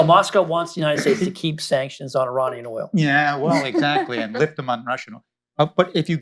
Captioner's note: laughter